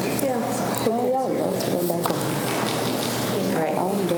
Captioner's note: group chatter